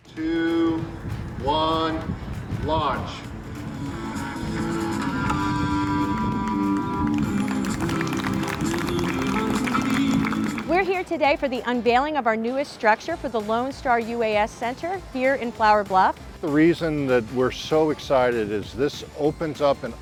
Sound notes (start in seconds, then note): 3.4 applause